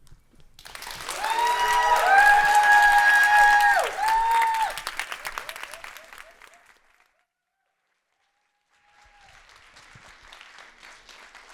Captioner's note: clapping